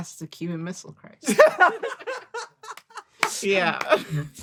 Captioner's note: laughs